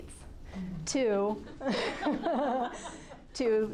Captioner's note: group laughing